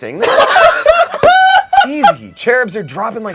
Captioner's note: everyone laughs